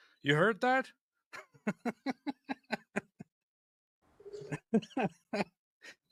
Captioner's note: Ketawa